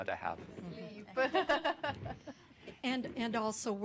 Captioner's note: laughing